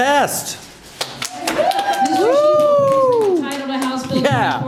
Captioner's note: unenthusiastic cheers